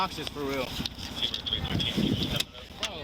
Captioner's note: radio chatter